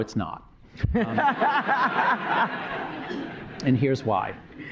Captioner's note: laughter